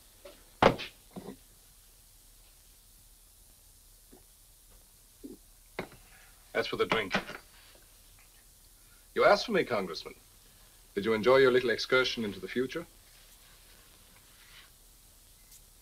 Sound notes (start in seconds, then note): 0.6 book thuds; 5.2 gulps